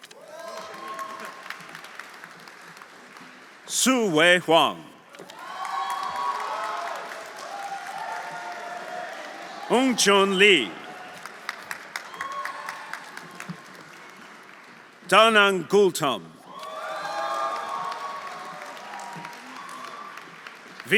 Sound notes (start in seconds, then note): 0.0 audience applauding; 0.1 audience cheering; 5.2 audience cheering; 5.3 audience applauding; 11.9 audience applauding; 11.9 audience cheering; 16.4 audience cheering; 16.4 audience applauding